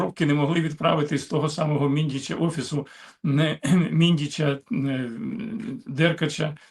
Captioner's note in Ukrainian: прочищення горла